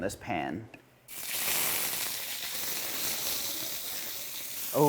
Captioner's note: sizzling